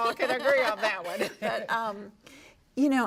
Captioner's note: laughter